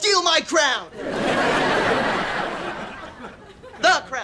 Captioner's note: audience laughing